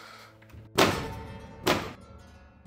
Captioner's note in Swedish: Kökslucka låter